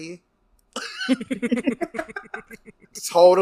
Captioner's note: laughs